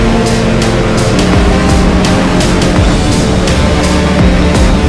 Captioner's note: snowmobiles buzzing